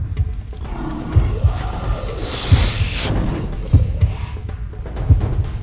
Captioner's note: dramatic music; heart beating